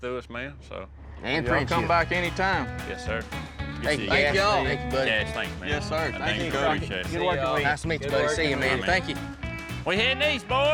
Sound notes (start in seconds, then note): 3.8 all chatting